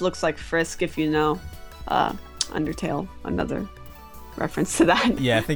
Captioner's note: chuckles